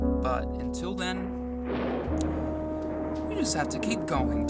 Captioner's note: thunder